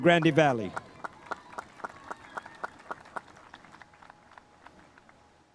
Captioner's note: spectators applauding